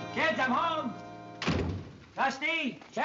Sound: door closes

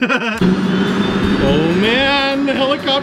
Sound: laughing; helicopter sounds

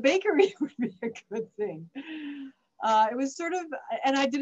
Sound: chuckles

